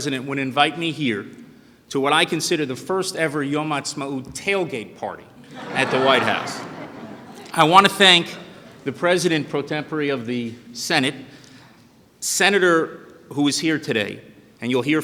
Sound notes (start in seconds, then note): 3.5 speaking Hebrew; 7.0 laughter